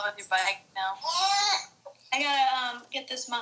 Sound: baby noises

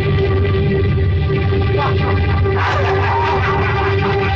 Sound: laughs

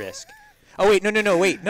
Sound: laugh

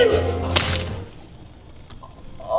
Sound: slime squishing

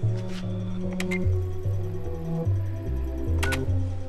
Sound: computer beeps

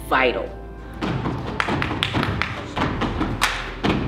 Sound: rhythmic stomping

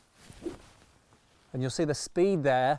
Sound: club whooshes

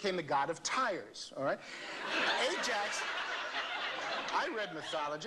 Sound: laughter

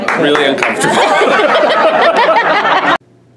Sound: laughs

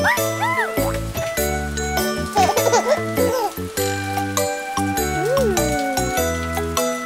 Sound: chuckling

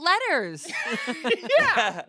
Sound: everyone laughs

